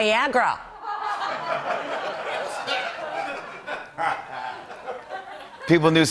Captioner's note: laughter